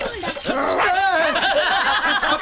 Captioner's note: Laughs